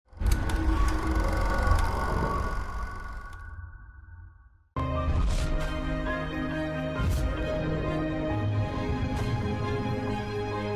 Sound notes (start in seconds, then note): 0.2 film reel clicking; 4.8 tense music